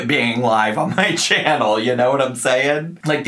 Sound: laughing

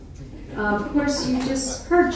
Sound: laughing

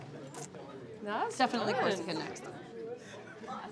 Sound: speaking faintly

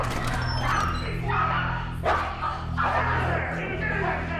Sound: dog barking; man shouting

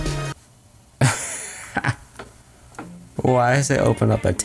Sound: laughs

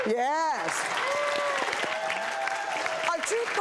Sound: audience applauds

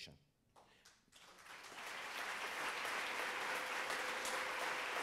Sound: audience applauds

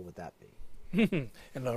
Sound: laugh

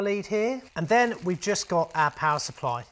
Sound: plastic rustling

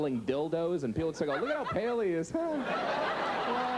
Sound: laughs; audience laughing

